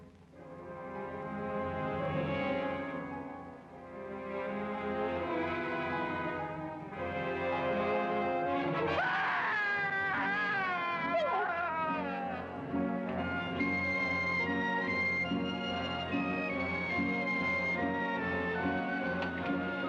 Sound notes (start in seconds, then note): 8.8 man screaming; 13.2 dramatic music